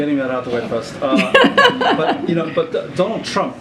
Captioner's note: laughter